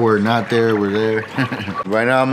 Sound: chuckles

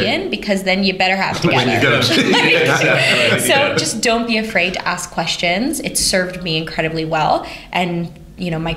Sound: laughter

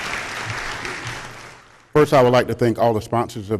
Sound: applause

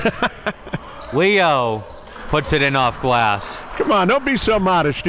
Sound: laughing

